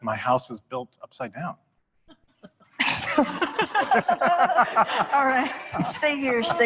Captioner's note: laughter; rang the bell